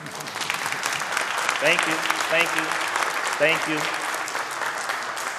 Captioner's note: audience applauding